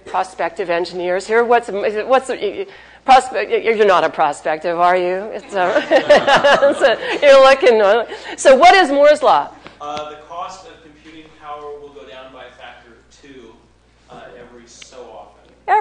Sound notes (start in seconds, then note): 5.4 laughs